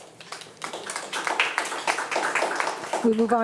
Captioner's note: attendees applauding